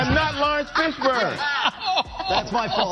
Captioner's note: hosts laugh